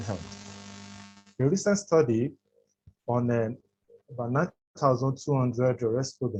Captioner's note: audio distorts